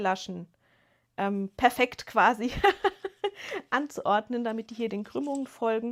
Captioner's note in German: gelächter